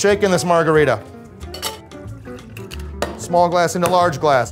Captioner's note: ice clinks